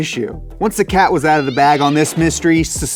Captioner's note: cat screeches